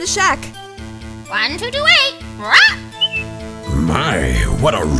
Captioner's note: squawk, whistle